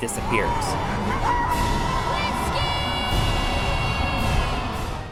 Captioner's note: game audio